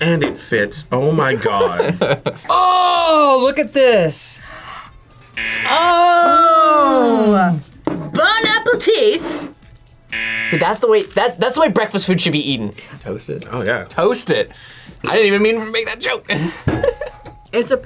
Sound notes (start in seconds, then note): 4.4 gasps; 5.3 buzzer rings; 10.1 buzzer rings; 17.2 laughs